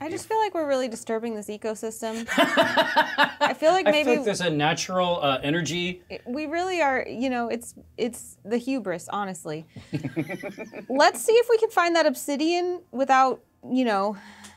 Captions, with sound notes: - I just feel like we're really disturbing this ecosystem. (co-host laughing) I feel like maybe- - I think there's a natural energy. - We really are, you know, it's the hubris, honestly. (co-hosts laughing) Let's see if we can find that obsidian without, you know,